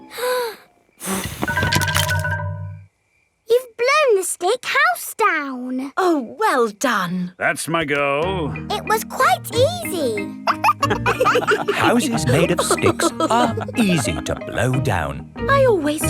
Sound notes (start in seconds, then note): 1.0 blowing; 10.4 wolves laughing